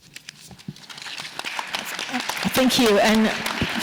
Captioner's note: audience applauding